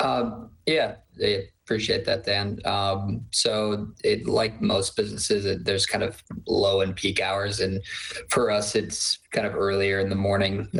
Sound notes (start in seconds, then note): none